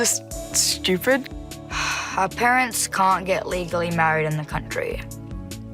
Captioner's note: sighs